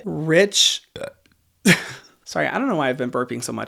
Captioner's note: burps; laughs